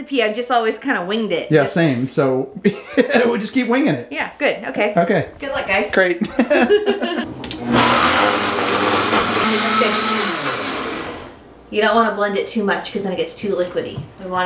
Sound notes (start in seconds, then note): 6.2 laughing; 7.4 buzzing